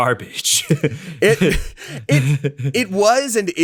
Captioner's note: laughs